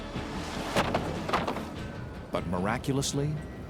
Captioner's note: board clatters